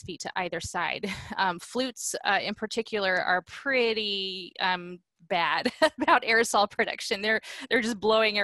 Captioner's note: laughter